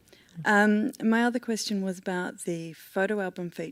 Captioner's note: voiceover